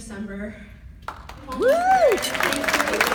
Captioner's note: applause and cheering